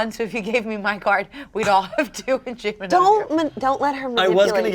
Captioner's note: laughing